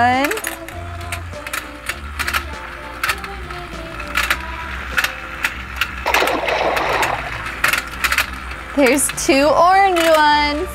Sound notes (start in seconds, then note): 6.0 water splash